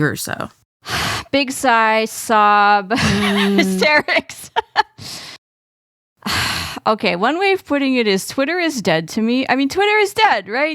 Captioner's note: sighs